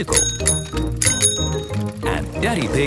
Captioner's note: bicycle bell dinging